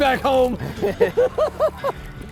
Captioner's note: chuckles